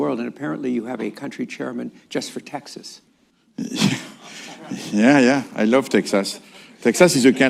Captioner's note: laughter